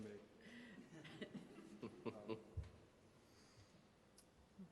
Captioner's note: laughing